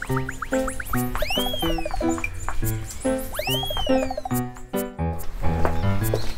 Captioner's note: walking / Going back and forth